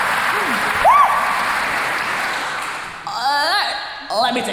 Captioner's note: screams